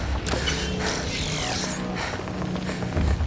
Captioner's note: beeping